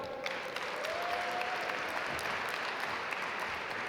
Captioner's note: audience applaud